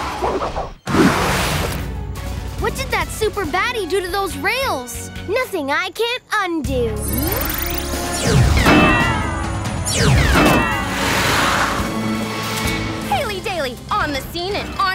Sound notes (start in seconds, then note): none